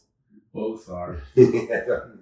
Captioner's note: chuckling